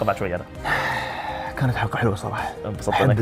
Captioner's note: exhales